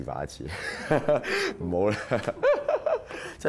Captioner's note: laughs